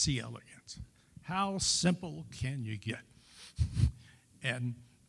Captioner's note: chuckles